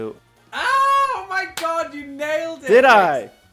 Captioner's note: screams